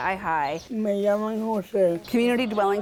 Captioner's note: patient speaking in foreign language